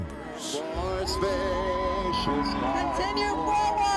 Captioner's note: crowd cheering